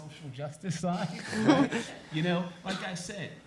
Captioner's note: chuckle